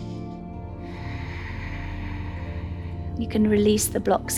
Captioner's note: inhales; exhales